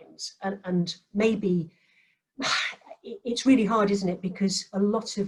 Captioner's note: sighs